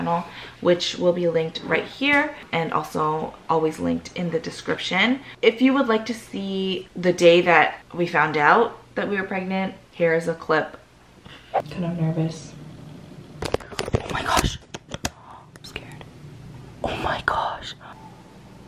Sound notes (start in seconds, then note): 15.3 whisper